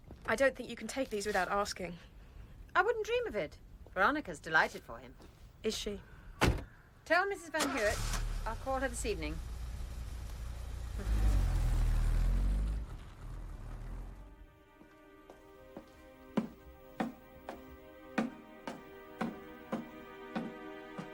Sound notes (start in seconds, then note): 9.7 car engine rumbles; 13.3 tense music playing; 18.1 heavy footsteps echo